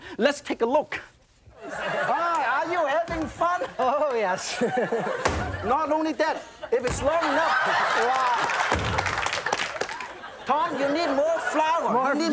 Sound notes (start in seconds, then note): 8.3 audience laughs; 8.7 dough slams on counter